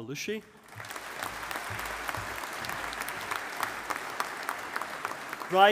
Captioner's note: audience applauding